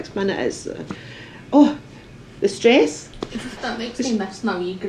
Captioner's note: laughter